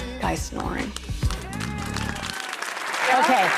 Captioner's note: applause